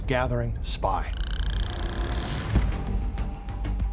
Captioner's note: whale clicking